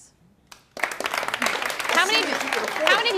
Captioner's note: some men in audience clap